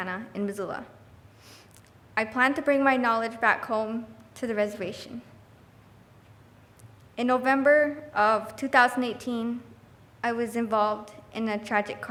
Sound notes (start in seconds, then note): none